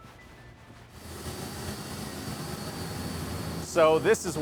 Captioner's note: machine engine roaring